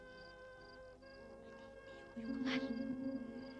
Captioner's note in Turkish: fısıldayarak